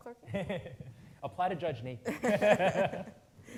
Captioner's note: laughing